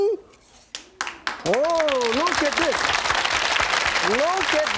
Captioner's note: audience applauding